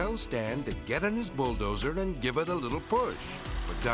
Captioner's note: bulldozer humming